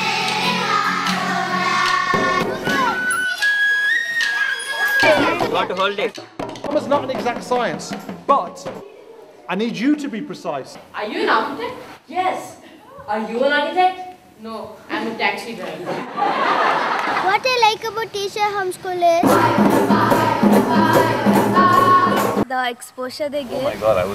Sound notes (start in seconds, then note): 15.7 laughter